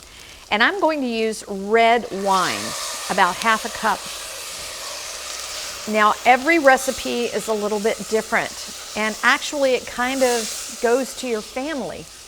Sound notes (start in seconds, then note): 4.0 pan sizzling